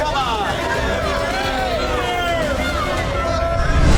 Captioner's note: booing